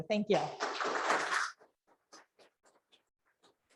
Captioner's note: audience claps